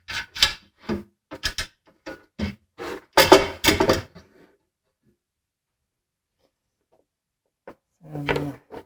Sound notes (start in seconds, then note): 3.1 metal clanking